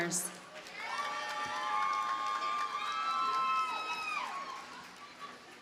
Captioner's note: audience cheers and applauds